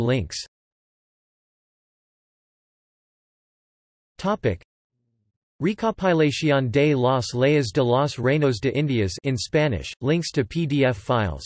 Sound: in Spanish

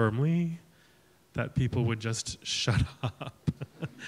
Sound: laughing

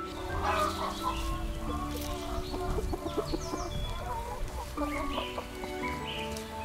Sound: chicken clucks, more chickens clucking from afar

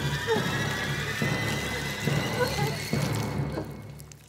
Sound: sobbing

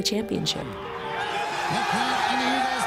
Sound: cheering

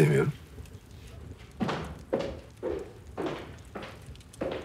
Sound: footsteps

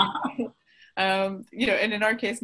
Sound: everyone laughs

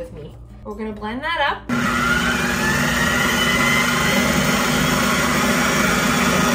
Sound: blender whirring

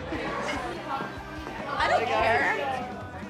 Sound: people chattering

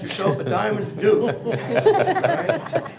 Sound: others chuckle

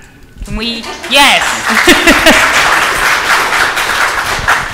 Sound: audience applauds

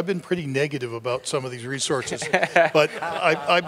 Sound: crowd laughs

